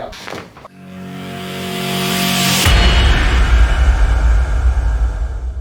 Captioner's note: dramatic whooshing